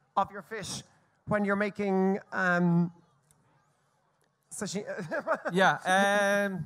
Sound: laughs

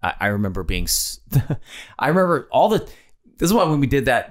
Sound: Glenn laughs

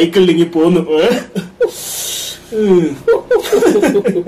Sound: laugh

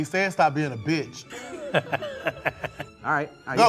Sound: both laughing

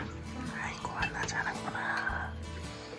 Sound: whisper

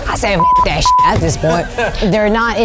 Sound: beep

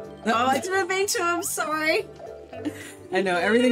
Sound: both laugh

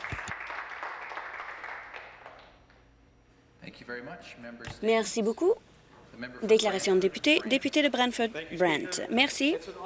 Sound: some Applause

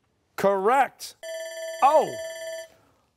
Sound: bell rings

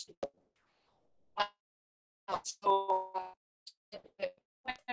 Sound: audio distorts

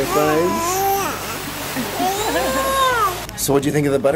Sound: baby coos

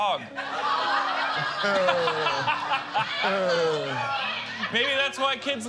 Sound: laughter

